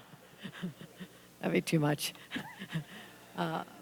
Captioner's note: laughter